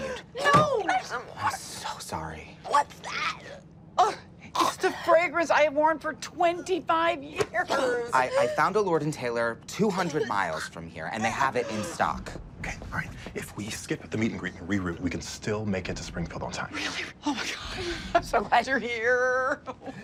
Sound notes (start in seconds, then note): 3.7 grunts; 19.3 chuckles